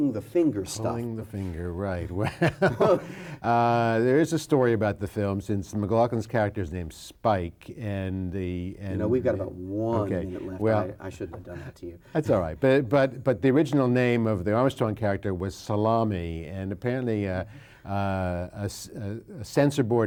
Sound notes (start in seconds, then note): 2.2 laughs